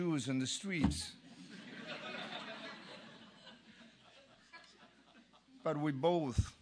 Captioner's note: laugh